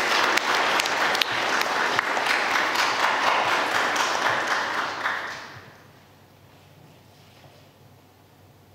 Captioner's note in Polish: oklaski